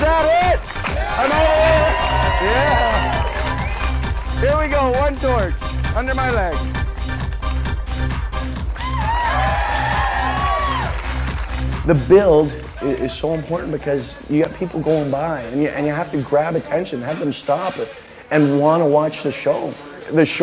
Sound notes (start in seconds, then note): 0.0 audience cheering; 7.1 upbeat music continues; 8.6 audience cheering